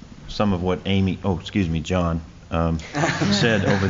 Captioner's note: laughter